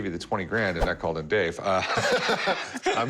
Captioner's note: laughter